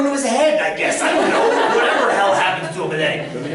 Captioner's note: laughter